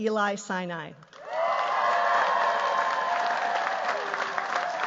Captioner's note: cheers, applause